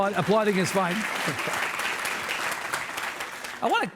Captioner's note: audience applauds